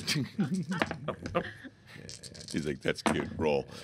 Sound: dice rattling

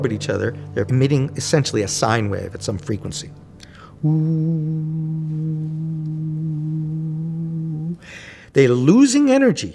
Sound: low Frequency Noise

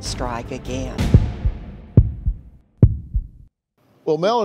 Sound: beating

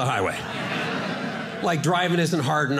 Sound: audience laughing

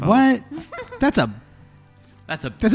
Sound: laughs

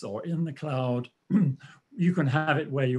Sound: clears throat

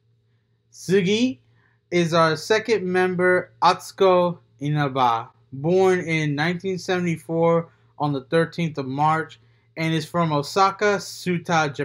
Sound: says next in Japanese

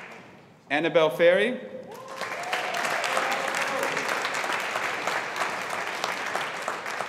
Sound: audience applauding

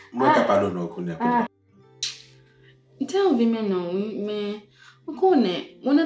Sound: none

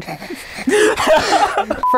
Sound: laughing

